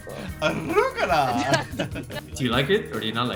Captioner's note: laugh